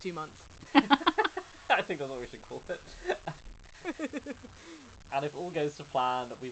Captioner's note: laughs